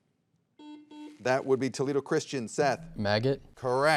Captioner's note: soft beeping